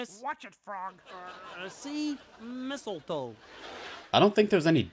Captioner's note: audience chuckles; audience laughs